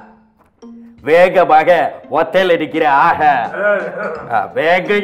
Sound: coughs hard

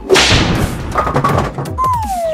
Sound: whip cracking; rolling and thudding; comical tooting

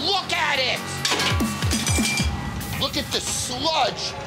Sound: utensils clattering

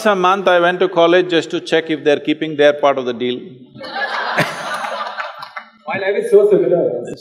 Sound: laughter

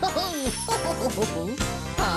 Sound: Barney Giggles

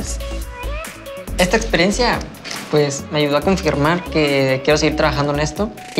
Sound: speaking Spanish

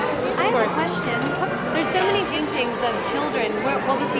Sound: none

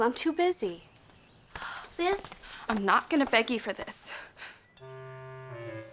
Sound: sighs

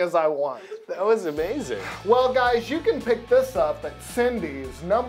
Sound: laughter

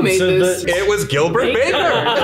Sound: laughs

